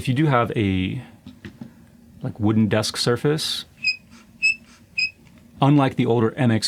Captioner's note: squeaking noise